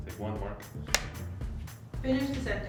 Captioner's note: clapperboard clacks